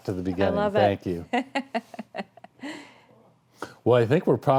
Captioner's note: laughing